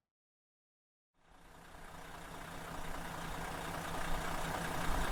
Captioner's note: engine running